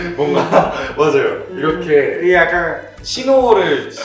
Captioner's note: perfectly imitated